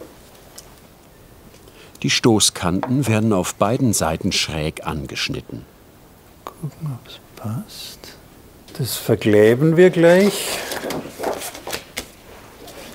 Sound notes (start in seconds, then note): 6.6 quietly